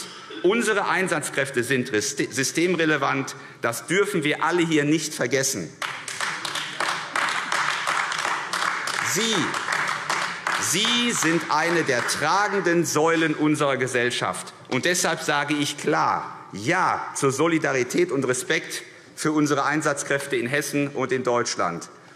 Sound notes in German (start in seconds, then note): 5.8 Beifall AfD